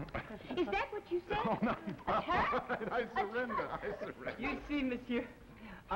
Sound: Philippe laughing

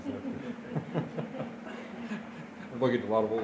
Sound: laughter

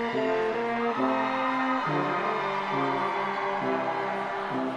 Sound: audience cheers

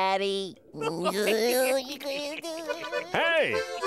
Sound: laughing

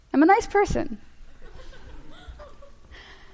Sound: laughter

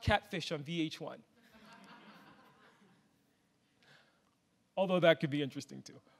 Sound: audience laughs

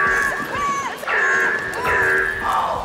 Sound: screaming

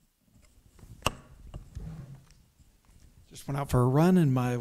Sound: microphone rustling; chairs scooting

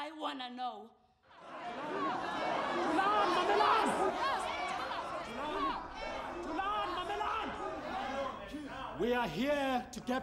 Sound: crowd shouting in Xhosa

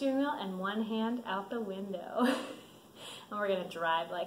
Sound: laughs

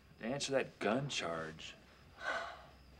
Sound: sighing

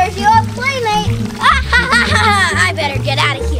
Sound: evil Assistant laughing

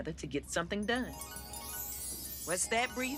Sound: chimes

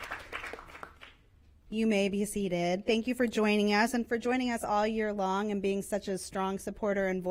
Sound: applause

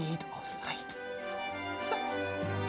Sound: laughs

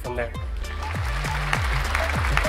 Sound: applause

